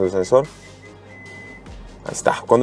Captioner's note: sensor beeping